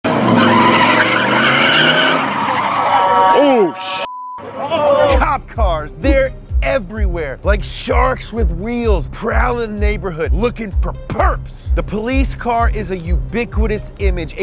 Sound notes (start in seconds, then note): 0.0 car engine roaring; 0.0 tires squealing